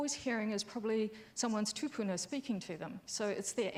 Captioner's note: speaks foreign language